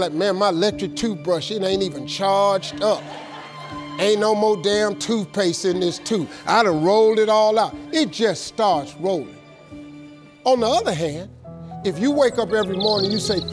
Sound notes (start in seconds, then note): 2.6 laughing